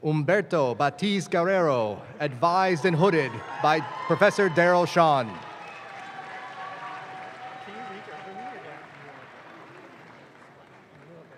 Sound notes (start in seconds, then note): 5.9 audience claps